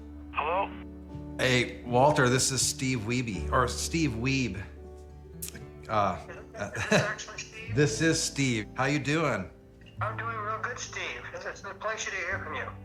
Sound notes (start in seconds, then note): 5.4 clicks tongue; 5.9 laughs